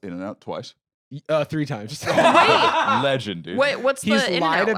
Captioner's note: laughs